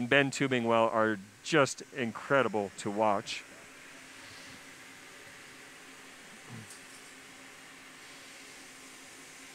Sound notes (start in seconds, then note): 4.0 pause; 4.0 sound of blowtorch